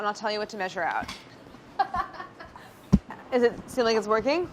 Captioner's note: laughing